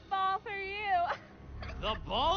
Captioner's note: laughs